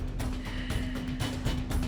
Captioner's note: sigh